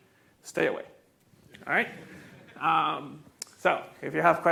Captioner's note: students chuckling